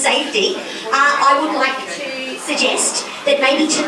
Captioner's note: cackles like a witch